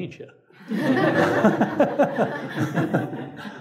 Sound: audience laughs

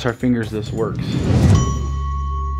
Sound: air whooshes; ominous music

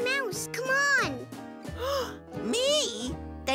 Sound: gasp

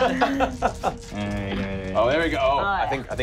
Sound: laughing

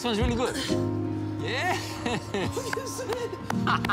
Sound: laughs

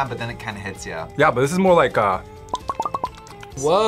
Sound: smacks lips

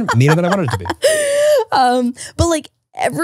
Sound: laughs

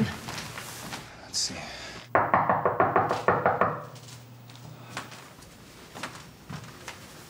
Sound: loud knocking

